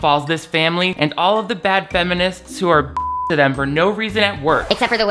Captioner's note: beep